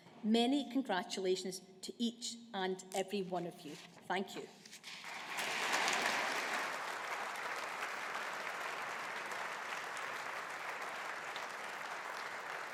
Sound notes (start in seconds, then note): 5.0 audience applauding